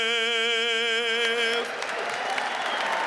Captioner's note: cheers and applause